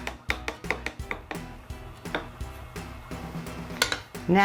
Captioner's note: spoon clacking